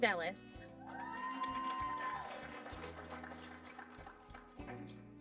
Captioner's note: applause